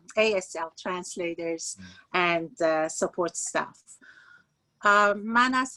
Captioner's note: speaking Farsi